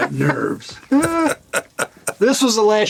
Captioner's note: Gilligan, Gould laughing